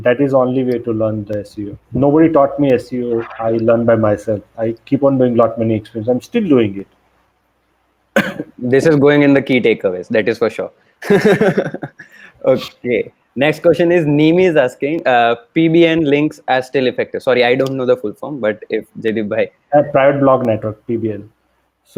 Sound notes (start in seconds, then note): 11.0 laughs